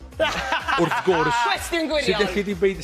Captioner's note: laughter